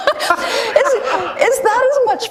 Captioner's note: laughter